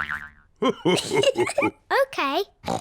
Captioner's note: laughs